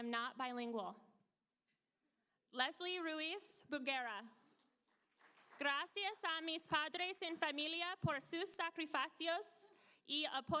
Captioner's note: applause